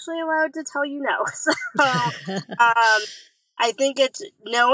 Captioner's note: laughs